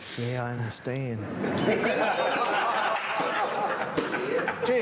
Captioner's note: all laughing